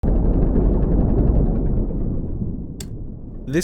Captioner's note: submarine rumbles; button clicks